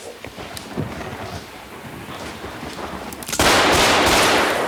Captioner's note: thunder claps; gun fires rapidly